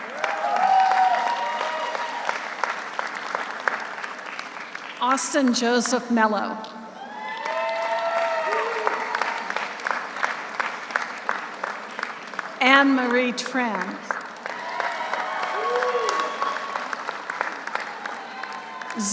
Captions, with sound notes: (audience cheers) (audience applauds) Austin Joseph Mello. (audience cheers) (audience applauds) Anne Marie Tran. (audience cheers) (audience applauds)